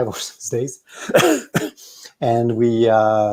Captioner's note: coughs